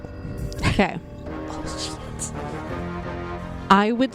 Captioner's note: whispering